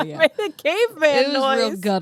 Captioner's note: laughs